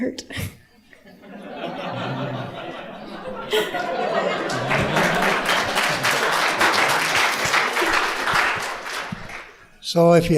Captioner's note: laughter; applause